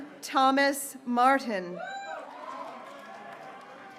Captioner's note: graduates cheering